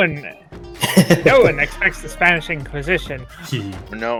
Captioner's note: chuckles